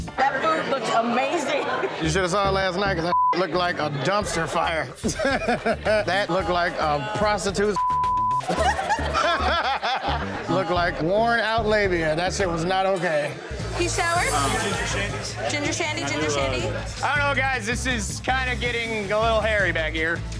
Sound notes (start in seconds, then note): 4.3 laughs; 8.4 laughter